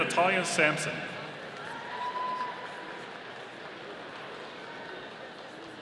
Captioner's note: audience cheering